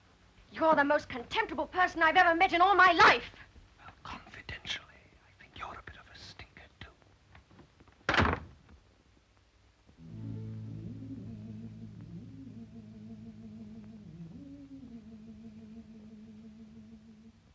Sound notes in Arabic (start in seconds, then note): 8.1 يغلق الباب